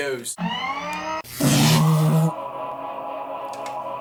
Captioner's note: mechanical noises